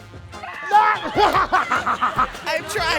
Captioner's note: laughs